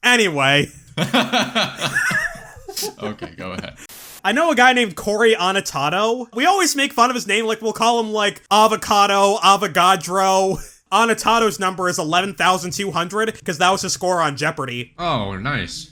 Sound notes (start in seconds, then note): 0.7 both laugh; 3.7 static